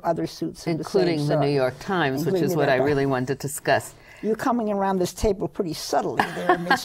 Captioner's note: laughs